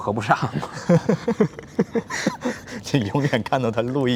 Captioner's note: both laughs